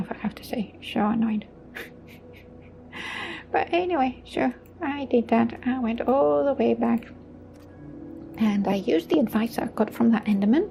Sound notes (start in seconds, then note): 1.7 chuckles